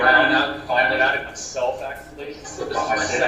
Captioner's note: echo